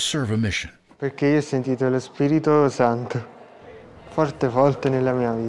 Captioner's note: speaking Italian